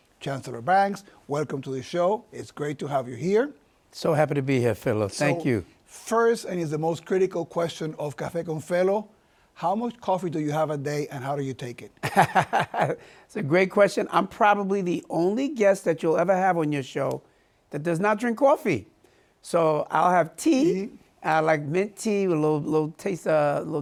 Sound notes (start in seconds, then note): 12.0 laughs